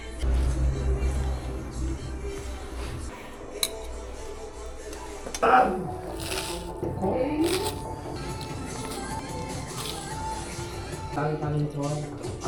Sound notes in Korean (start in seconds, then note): 6.7 냠냠; 8.1 냠냠냠